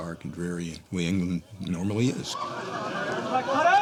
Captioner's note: overlapping chatter